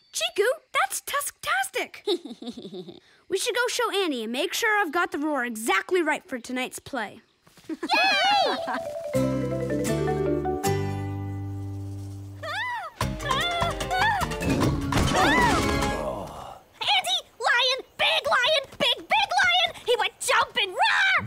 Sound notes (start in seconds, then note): 2.0 giggles; 7.7 laughing and cheering; 15.1 frightened screaming; 15.1 pained groan